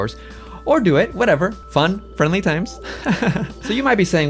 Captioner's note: laughs